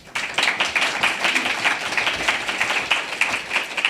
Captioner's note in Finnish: aplodeja